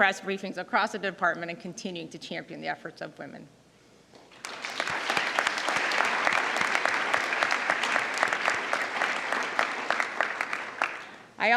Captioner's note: applause